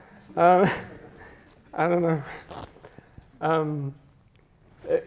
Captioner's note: chuckles